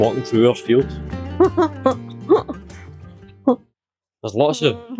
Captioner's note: unicorn laughs